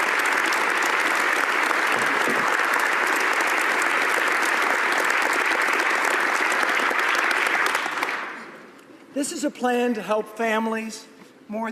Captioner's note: applause